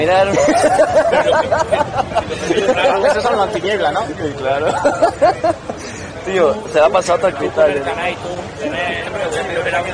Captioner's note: laughs